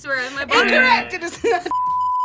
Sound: buzzer

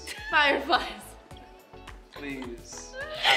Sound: laughing

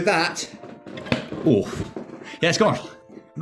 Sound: thud

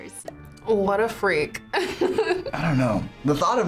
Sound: laughs

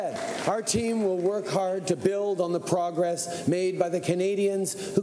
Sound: cheering

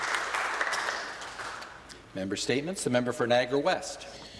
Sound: applause

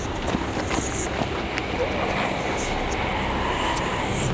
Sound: voice whispering

